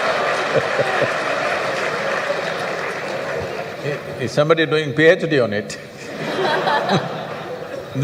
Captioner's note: laughter/Applause; laughter